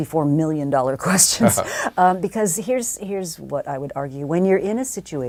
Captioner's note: laugh